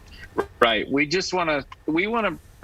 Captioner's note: talking fast